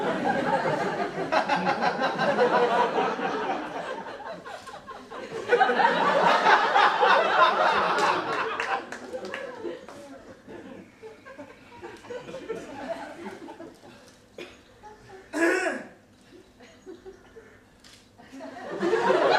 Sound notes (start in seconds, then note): 0.1 laughing; 5.5 more laughing; 14.3 tree coughs